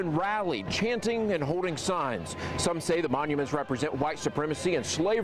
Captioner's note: chanting